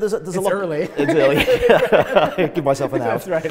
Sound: both laugh

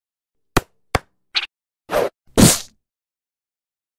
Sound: playful sound effect

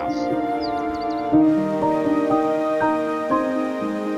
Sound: sound of rushing water

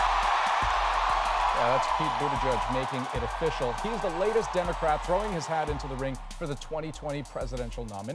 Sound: cheers and Applause

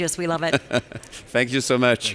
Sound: laughing

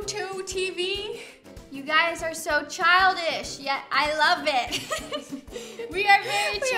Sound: laughs

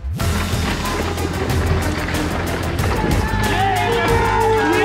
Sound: upbeat music; wind whirling; crowd cheering

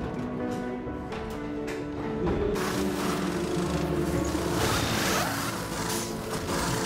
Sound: pit tool noises

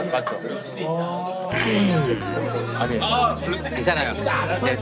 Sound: clearing his voice

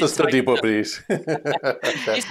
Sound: laughter

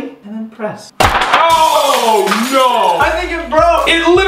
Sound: glass shattering

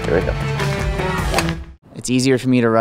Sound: golf club cracks

